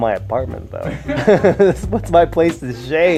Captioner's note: laughter